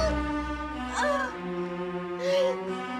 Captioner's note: Terengah-engah